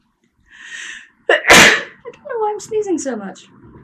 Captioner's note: sneezes